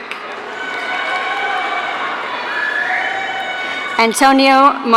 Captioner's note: audience cheering